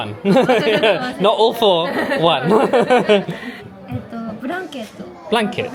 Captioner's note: laughing